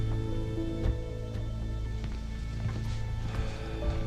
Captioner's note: sighs